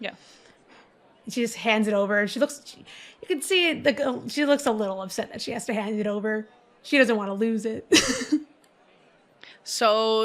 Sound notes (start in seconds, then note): 0.1 takes a deep breath; 8.8 laughs